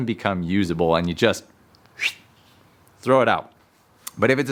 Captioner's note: whistles